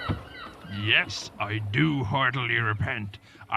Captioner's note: voiceover